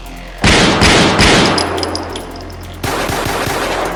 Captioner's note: dramatic music; gun shoots; guns shoot